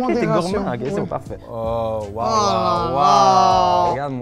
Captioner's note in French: exclamations